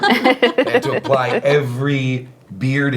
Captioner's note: laughing